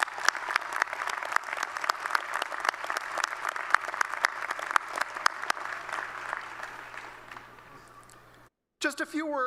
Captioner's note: applause